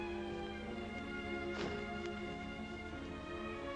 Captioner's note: curtains slide; sentimental music